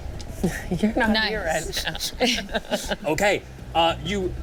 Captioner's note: laughs